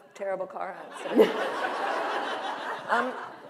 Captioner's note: laughter